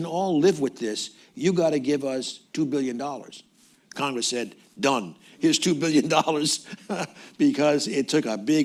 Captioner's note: laughs